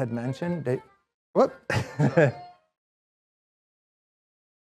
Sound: laughs; whimsical music

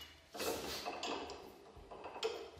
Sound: clacking

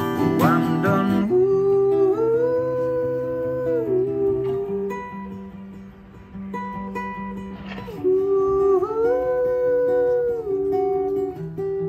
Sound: ooh ooh

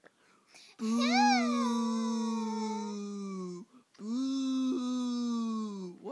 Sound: booing

